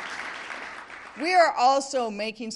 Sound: applause

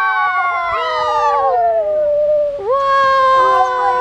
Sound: cheering

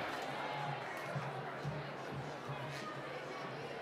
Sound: applause

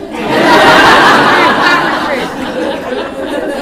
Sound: audience laughing

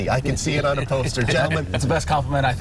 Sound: laughter

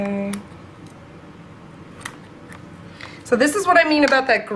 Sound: clipping sounds

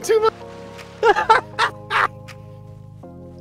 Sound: laughter

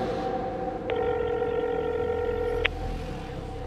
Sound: telephone noise

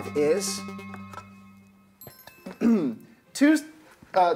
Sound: clearing throat

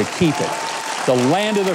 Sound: audience clapping

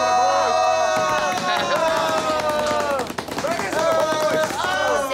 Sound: hands drumming

